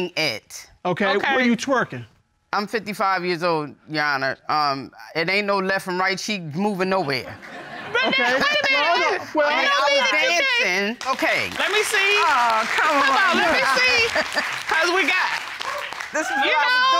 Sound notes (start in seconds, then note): 13.8 audience applauding